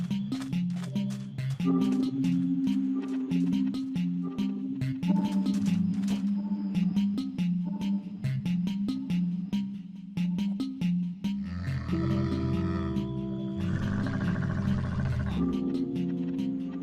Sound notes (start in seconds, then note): 0.0 drum beat music; 11.4 camel groaning